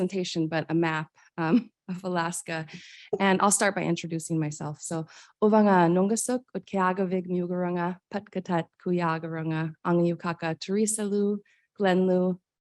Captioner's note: speaking in foreign language